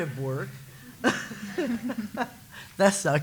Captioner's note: laughter